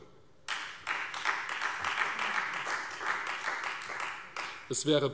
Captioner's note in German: Beifall Freie Demokraten